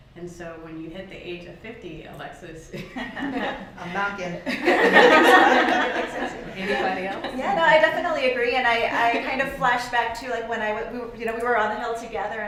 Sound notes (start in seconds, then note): 4.4 laughter